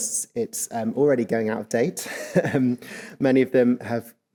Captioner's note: chuckles